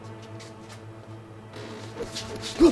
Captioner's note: creaking